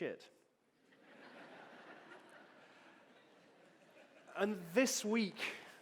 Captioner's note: audience laughing